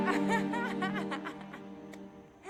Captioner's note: laughter